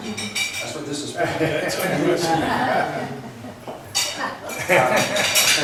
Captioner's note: laughs